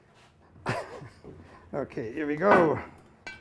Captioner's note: laughs